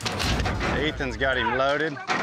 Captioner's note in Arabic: بوابات تغلق